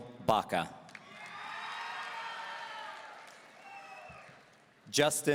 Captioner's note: audience cheering